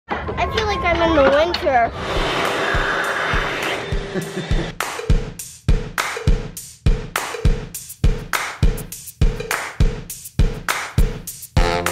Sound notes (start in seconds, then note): 4.0 chuckles; 5.6 upbeat music